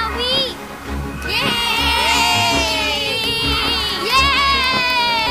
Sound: cheering; continues cheering

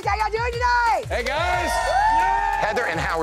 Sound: cheers

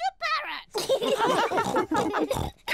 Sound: all laugh

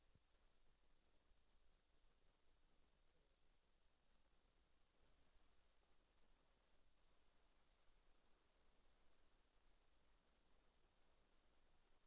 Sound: away from microphone

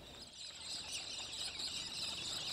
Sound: birdsong at dawn

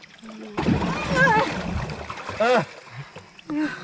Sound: splashing

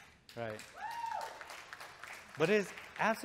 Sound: audience cheering

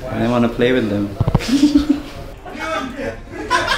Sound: laughter; laughter

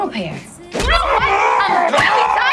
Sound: groaning

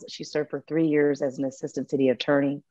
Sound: none

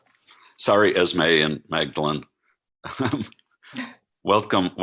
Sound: chuckles

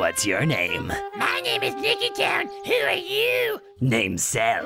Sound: Imperfect Cell talking falsetto

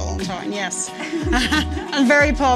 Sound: both laugh

